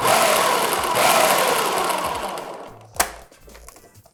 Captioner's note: food processor whirring